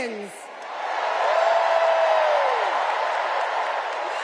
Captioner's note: cheers and applause